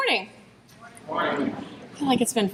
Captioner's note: crowd